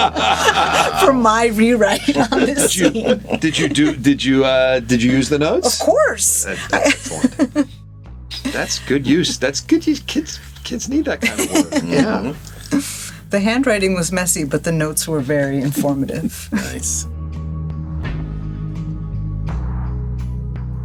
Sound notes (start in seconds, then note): 0.0 all laughing; 6.5 chuckles